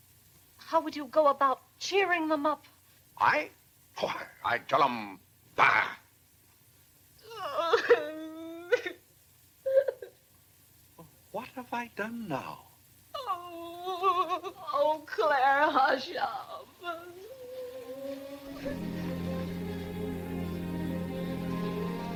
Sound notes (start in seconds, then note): 7.2 sobbing; 16.2 sobs; 17.6 mellow music